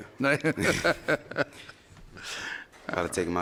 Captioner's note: chuckles